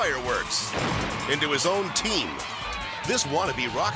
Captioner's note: fireworks explode